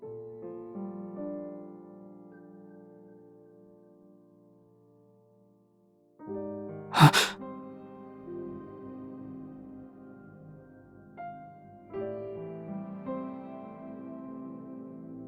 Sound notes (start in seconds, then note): 6.9 gasp